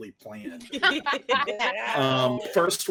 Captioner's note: everyone laughing